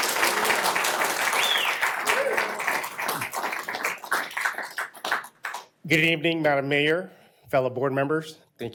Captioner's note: applause